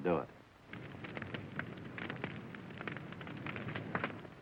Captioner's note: fire crackling